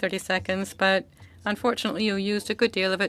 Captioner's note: speaking French